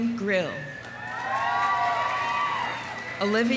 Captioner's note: audience cheering; audience applauding